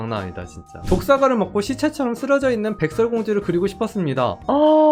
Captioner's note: voiceover